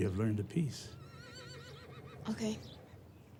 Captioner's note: horse whinnies distantly